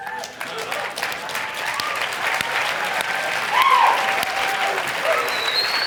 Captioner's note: audience cheer and applaud